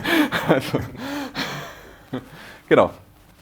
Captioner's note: laughter